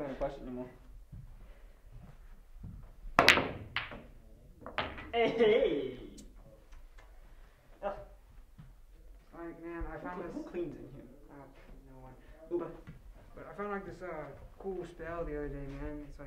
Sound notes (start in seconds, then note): 3.1 pool ball strikes